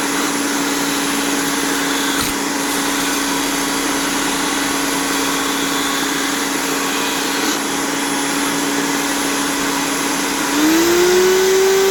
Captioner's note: grinding sound